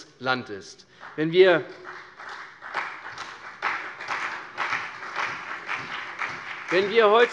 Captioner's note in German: Vereinzelter Beifall CDU und BÜNDNIS 90/DIE GRÜNEN